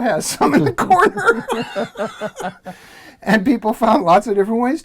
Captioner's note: laugh